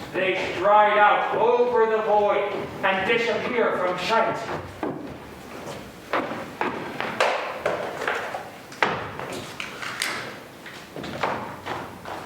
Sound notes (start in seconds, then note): 6.5 foot steps receding